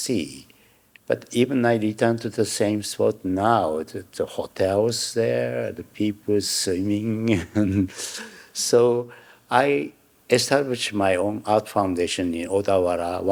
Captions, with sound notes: But even I return to the same spot now, there's hotels there, the people swimming. (chuckling) So I established my own art foundation in Odawara,